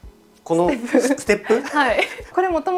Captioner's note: laughs